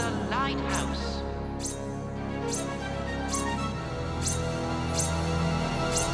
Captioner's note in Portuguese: lâminas raspando